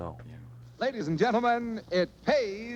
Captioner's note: radio Announcer